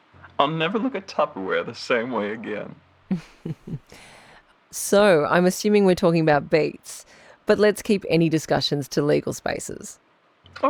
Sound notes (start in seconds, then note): 3.1 laughs